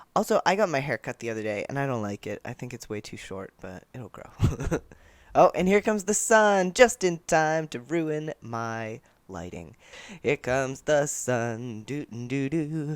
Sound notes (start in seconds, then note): 4.4 laughter; 10.2 singing